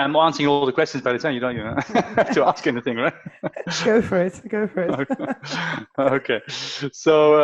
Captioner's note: laughter